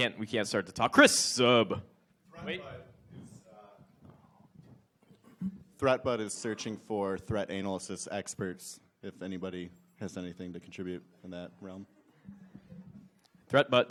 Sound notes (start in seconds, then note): 3.6 speaks off mic